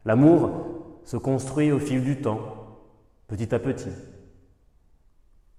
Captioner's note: none